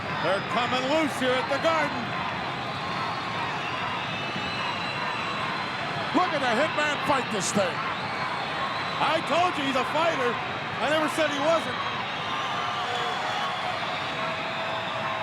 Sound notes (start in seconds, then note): 2.0 crowd yelling; 11.9 crowd cheering